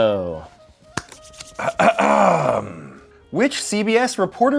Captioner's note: clears throat